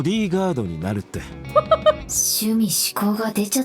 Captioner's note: chuckles